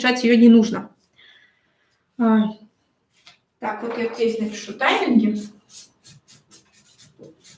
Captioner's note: скрежет маркера